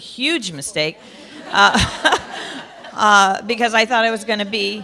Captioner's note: laughter